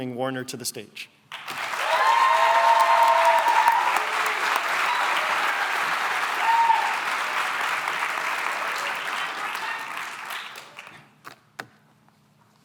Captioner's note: cheering and applause